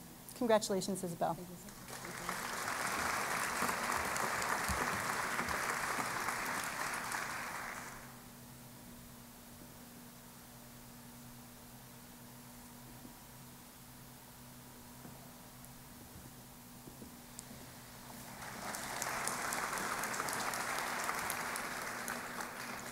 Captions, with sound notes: Congratulation Isabel. >> Thank you. [ Applause ] [ Applause ]